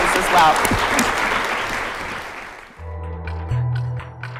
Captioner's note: applause